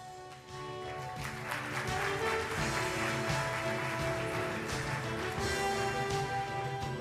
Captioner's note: triumphant music; audience applause